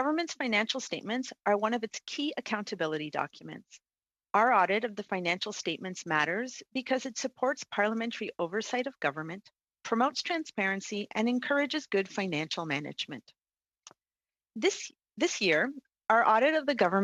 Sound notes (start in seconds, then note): 3.1 speaking French